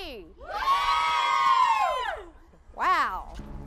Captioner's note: crowd cheers